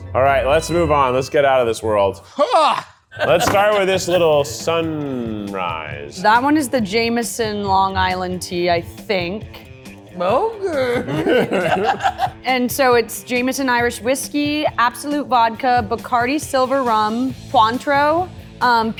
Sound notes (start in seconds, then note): 3.2 exclaims; 10.6 both laughing